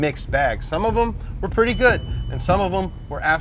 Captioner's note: bell dings